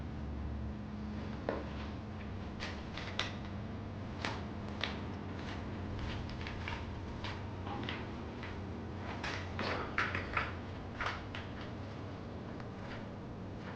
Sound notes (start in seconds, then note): 8.3 walking